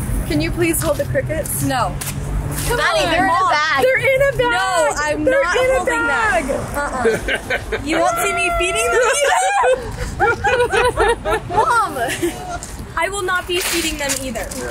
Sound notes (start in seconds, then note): 7.0 dad chuckles; 9.5 group laughing